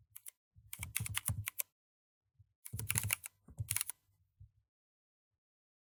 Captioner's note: typing